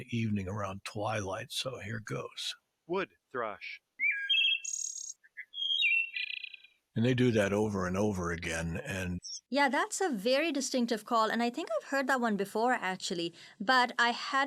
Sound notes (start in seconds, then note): 3.7 wood thrush chirping